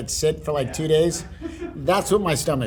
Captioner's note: laughing